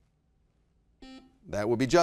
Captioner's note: buzzer beeps